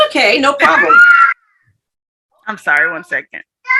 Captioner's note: child screaming